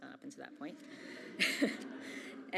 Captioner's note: audience laughs; chuckles